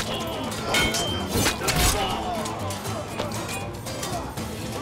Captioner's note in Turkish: Üst üste bağrışmalar